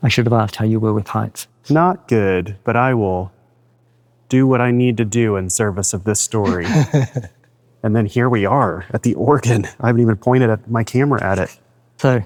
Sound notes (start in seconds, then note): 6.4 laughs